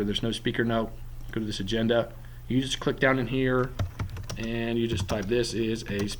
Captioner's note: typing